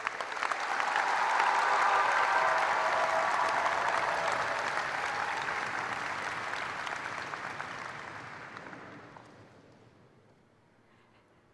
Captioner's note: cheers and applause